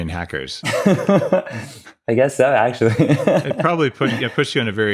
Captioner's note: laughs